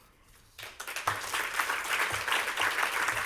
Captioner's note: applause